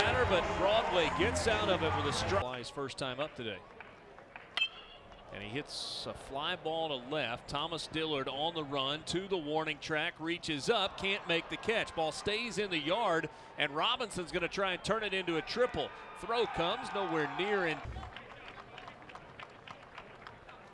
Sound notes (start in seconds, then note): 4.5 crack of bat